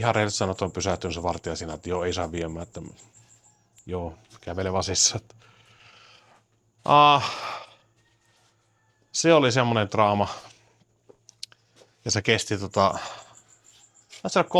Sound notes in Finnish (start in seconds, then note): 7.1 huokaus